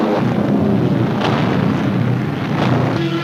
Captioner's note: booming